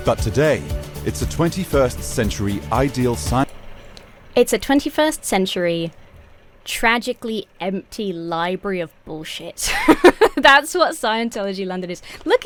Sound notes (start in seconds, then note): 9.6 laughs